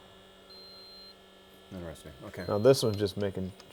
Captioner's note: machine beeps